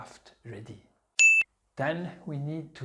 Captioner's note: pinging sound